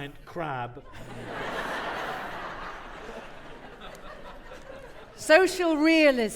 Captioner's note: audience laughing